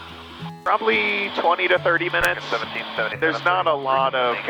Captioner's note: radio talks over